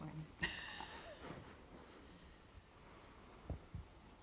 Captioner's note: laughter